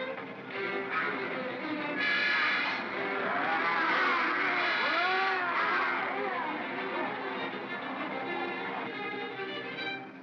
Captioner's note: Barnaby laughs & growls; suspenseful music; bogeymen growling; suspenseful music